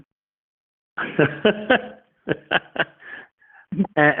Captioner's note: laughing